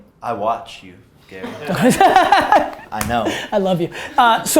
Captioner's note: group laughter